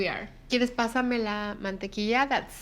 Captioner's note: speaking Spanish